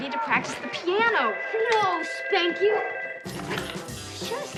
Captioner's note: telephone rings